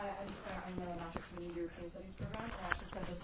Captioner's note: speaking faintly